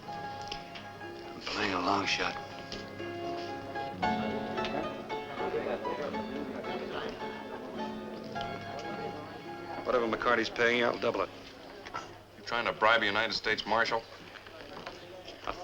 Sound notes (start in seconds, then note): 4.1 lively piano music; 6.6 patrons chatting